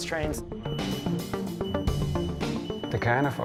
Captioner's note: beeping